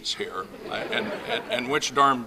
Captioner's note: laughing